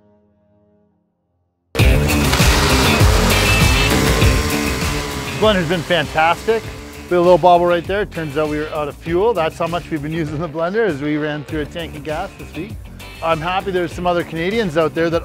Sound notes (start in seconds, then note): 1.9 rock music; 3.9 blender running